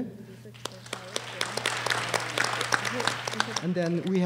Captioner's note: applause